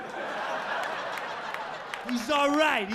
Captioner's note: audience laughing